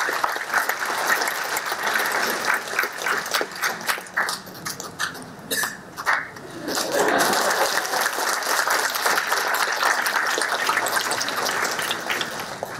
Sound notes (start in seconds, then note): 6.6 laughter